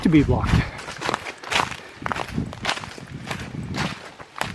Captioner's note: wind